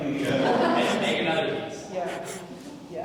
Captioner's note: all laughing